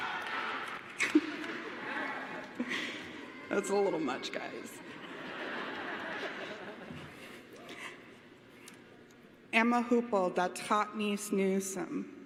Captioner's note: cheers and applause